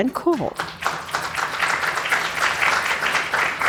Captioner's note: applause